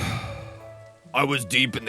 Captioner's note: sigh